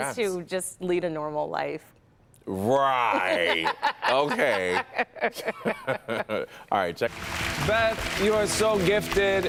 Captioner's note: laughter